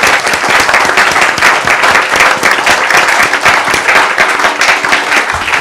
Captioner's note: applause